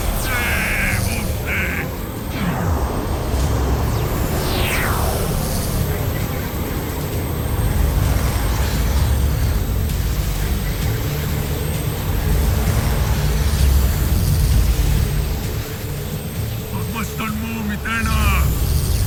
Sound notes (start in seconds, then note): 2.2 powerful whoosh-crackle; 2.2 evil energy whoosh & crackle